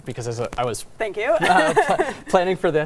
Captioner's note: laughs